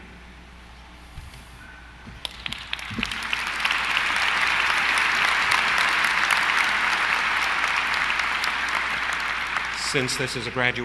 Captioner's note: applause